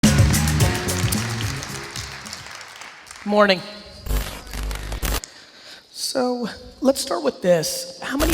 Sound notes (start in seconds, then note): 0.0 upbeat music; 0.1 applause